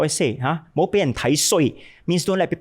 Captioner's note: speaking in Cantonese